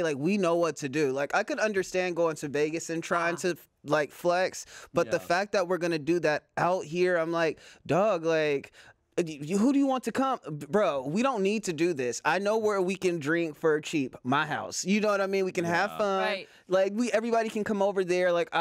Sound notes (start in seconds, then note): none